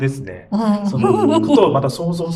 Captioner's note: laughs